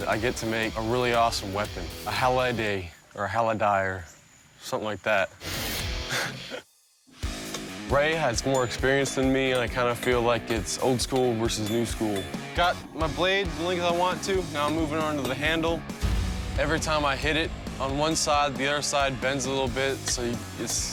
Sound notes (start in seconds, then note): 6.0 laughs